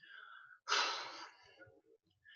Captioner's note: woman exhales